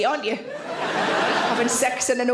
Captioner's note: audience laughs